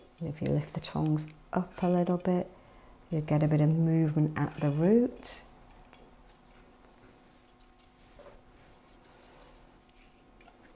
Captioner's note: ASMR sounds